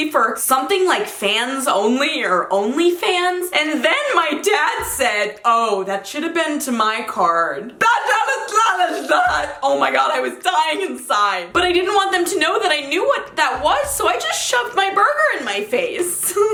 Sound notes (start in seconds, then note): 7.7 muttering gibberish; 15.9 laughing